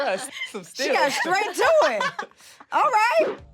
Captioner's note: laughing